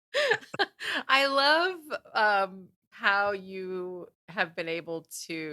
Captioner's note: laughing